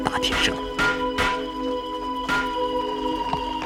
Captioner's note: clang!